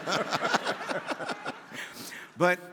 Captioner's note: laughing; audience laughing